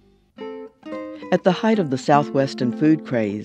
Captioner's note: voiceover